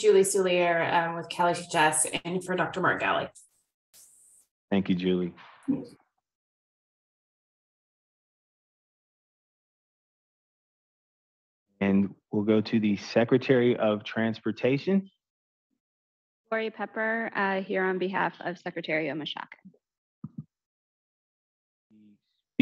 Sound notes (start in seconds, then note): 8.2 silence